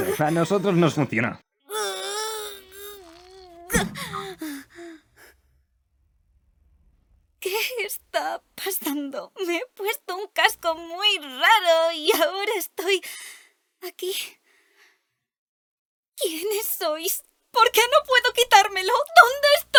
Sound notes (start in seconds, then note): 3.4 groans, gasps